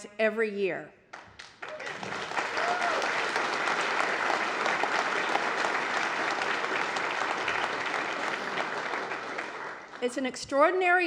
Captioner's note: applause